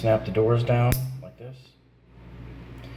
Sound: wiring nut snaps

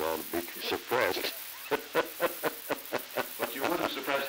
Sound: laughter

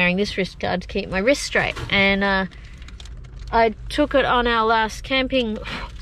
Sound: random banging noise

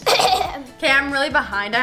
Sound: cough

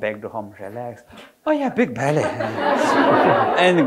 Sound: audience laughing

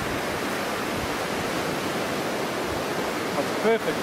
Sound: waves crashing

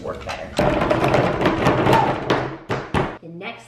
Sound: banging

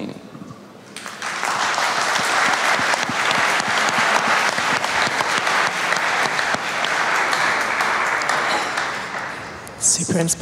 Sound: applause

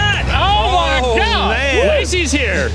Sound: all exclaim

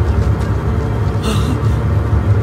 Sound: gasps

